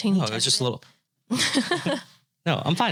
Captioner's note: both laughing